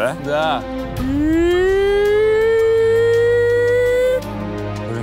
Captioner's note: eeehs excitedly